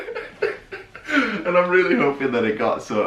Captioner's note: laughing